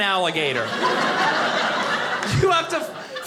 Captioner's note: audience laughing